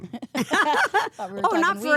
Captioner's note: laughs